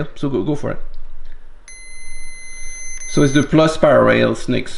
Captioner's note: meter beeping